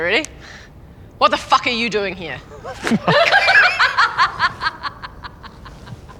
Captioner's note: laughing